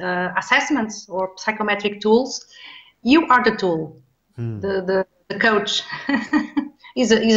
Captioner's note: chuckles